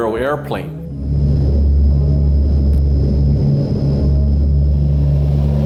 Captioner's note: plane engine roaring